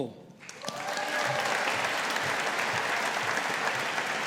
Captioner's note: audience applauding